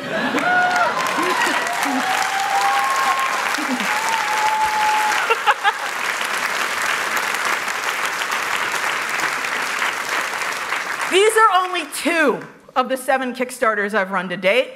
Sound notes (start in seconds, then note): 1.5 applause; 3.8 cheers